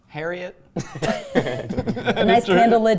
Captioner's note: laughing